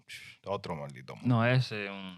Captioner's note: speaking In Foreign Language